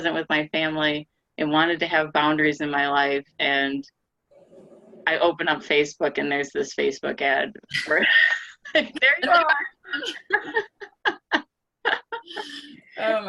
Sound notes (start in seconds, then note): 8.2 women laugh; 11.9 laughing